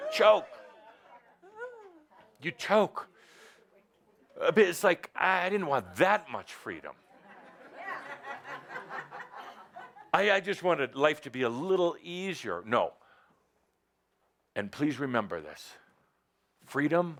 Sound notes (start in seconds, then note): 7.0 laughter